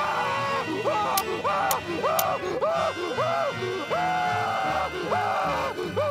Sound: screaming; Mr. Krabs keeps screaming

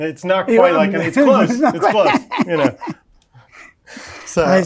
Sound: laughs

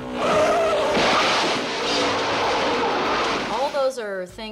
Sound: tires squeal

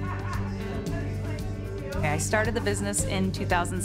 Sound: chattering

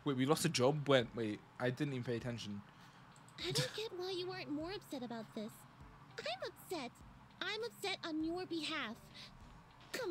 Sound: laughs

